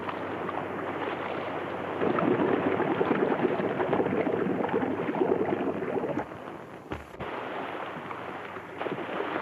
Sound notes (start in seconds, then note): 3.0 water splashes and bubbles